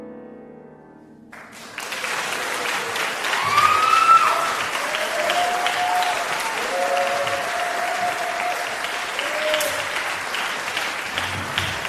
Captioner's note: applause